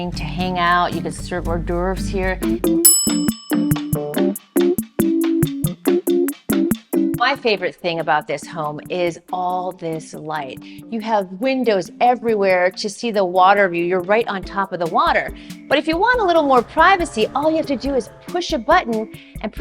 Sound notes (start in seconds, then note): 2.8 bell rings